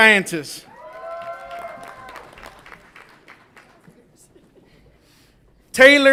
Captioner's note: audience applauds and cheers